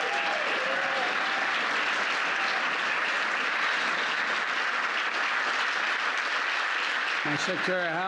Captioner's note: applause